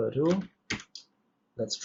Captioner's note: keyboard clicks